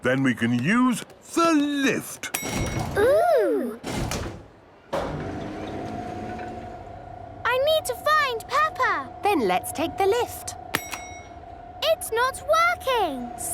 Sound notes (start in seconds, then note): 2.3 lift pings; 4.9 lift moving; 9.1 lift pings